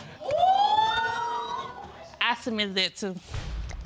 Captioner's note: audience exclaiming